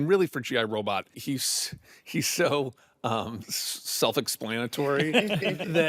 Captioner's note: all chuckle